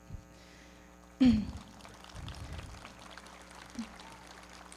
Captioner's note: everybody clapping